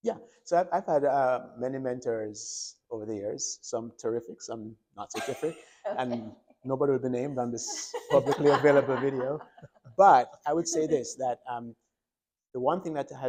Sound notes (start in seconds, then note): 9.3 doctors laughing